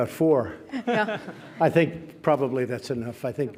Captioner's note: laughter